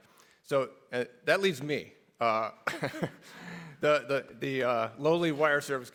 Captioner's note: laughs